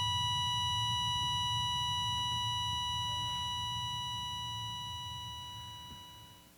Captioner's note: heart monitor beeping; flatlining